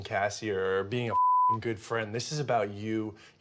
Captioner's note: beep